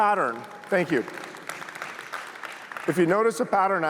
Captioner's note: applause